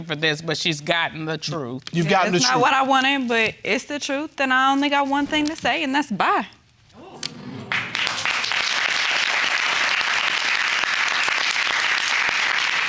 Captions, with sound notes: Well, I don't think she's lookin' for this, but she's gotten the truth. You got the truth. It's not what I wanted but it's the truth. Then I only got one thing to say and that's, "Bye." (APPLAUDING)